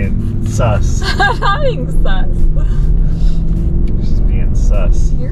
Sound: laughing

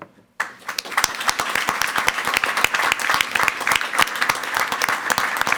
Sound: everyone applauding

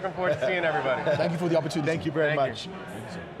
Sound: laughs

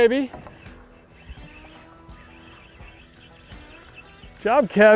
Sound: birds chirping

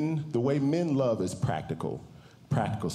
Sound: none

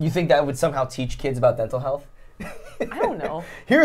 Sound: laughs

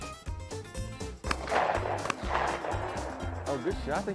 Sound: upbeat country music; shots go off

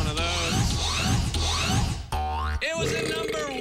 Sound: scratching

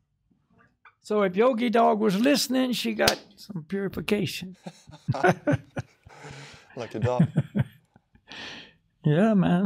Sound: laughs

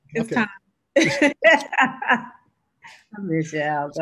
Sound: laughing

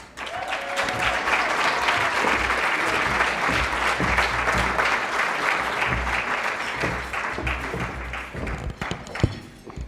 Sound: applause

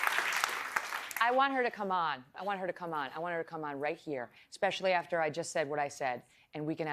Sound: applause

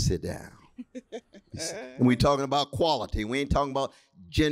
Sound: laughter

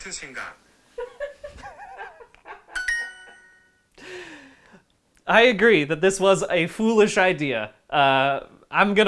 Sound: laughing more

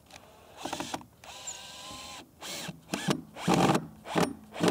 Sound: hand drill whirring

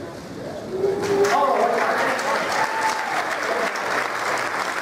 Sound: applause

